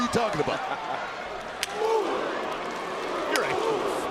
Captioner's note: Jerry laughs